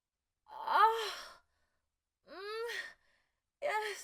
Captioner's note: moaning pleasurably